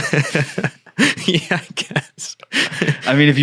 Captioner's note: laughing